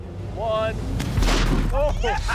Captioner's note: gunshot; laughing